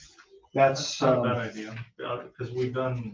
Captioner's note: overlapping chatter